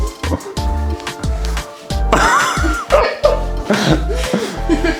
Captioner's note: laughing